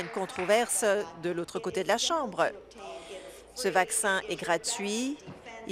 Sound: applause

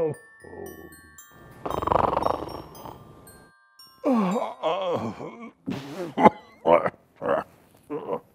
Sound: cough

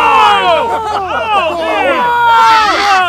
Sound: yelling

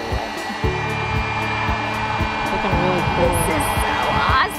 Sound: blow dryer blowing

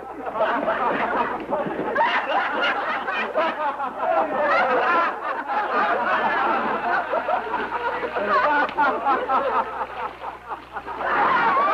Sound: laughter

